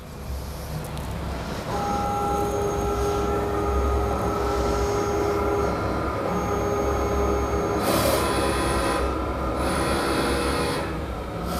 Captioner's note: printer machine noise